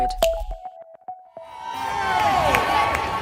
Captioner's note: crowd cheering